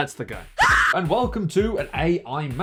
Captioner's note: lady Screaming